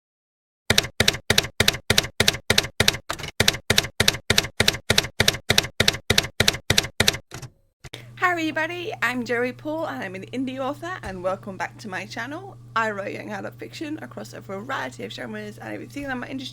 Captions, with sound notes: [TYPEWRITER KEYS CLACKING] Hi everybody! I'm Joey Paul, and I'm an indie author, and welcome back to my channel. I write young adult fiction across a variety of genres and if you think that might